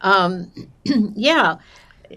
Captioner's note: clears throat